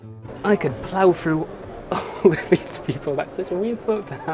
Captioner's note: chuckles